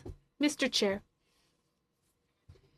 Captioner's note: speaking French